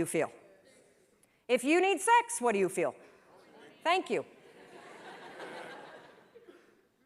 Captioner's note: laughter